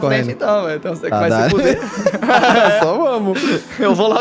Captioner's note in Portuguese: Risadas